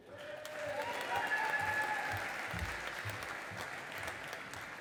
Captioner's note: audience applauding